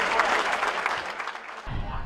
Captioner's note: background crowd buzz